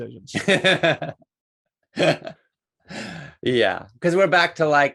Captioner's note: laughs